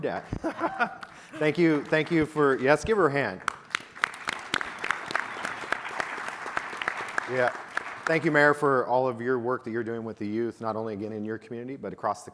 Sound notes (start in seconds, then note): 0.0 laughs; 3.8 audience applauding